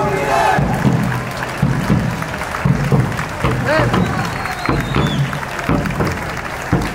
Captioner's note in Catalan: Aplaudiment